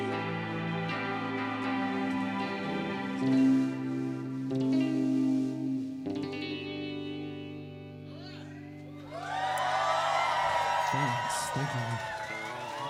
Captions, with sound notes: (people cheering) - Thanks, thank you.